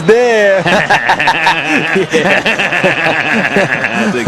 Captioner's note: both laugh